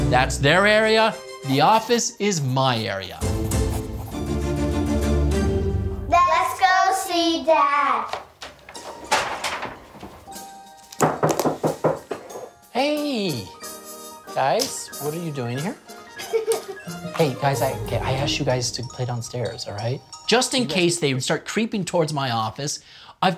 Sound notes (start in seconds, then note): 11.0 door knocking; 16.1 giggling